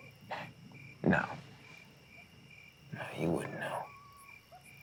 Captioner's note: laughs